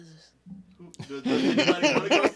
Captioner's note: laughing